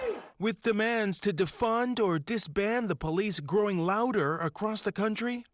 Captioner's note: crowd chanting